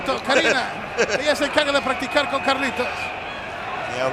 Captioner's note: laugh